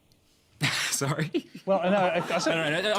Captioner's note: laughs